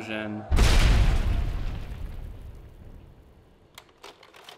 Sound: explosion; slide projector clicks

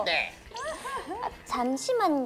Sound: laughing

